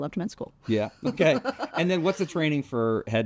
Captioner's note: laughs